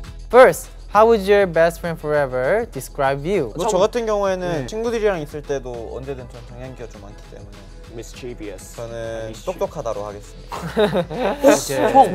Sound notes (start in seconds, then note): 3.6 speaking in Korean; 8.9 speaking in Korean